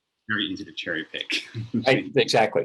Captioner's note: chuckles